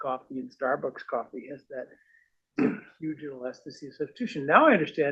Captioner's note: cough